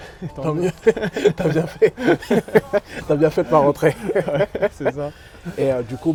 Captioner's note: laughs